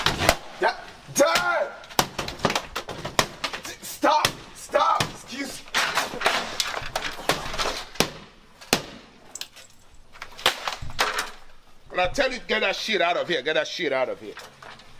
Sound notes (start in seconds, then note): 1.9 hammers laptop; 7.3 hammers laptop; 10.4 laptop hits floor